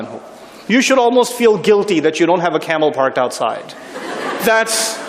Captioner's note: laughter